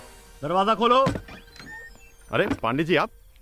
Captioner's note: Door opens